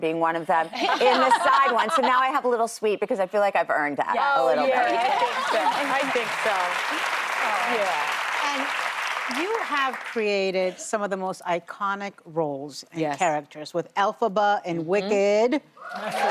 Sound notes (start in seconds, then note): 10.3 applause